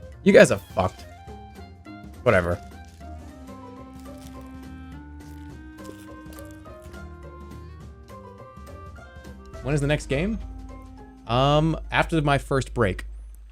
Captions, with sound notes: You guys are fucked. Whatever. [cronch] "When is the next game?" Um, after my first break.